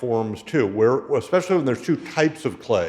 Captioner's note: none